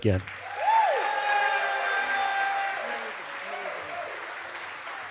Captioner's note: cheers and applause